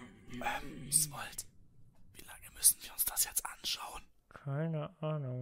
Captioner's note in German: flüsternd